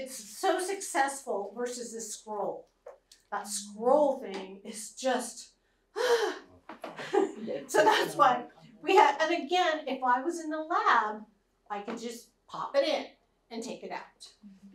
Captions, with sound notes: It's so successful, versus the scroll. That scroll thing is just [GROANS].. So that's why we had-- and again, if I was in the lab, I can just pop it in and take it out.